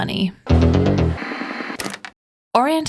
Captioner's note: static